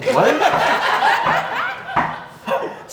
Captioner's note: laughter